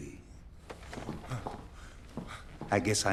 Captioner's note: gasps